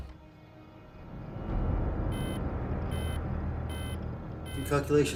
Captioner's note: dramatic music; electronic beeping